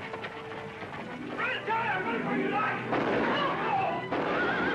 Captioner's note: gunshots